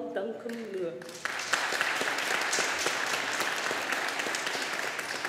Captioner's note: audience applauding